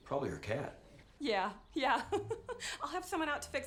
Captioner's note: laughs